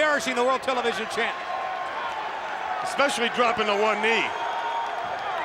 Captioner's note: applause